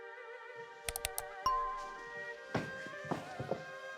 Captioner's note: cursor clicks; bell dings; traditional music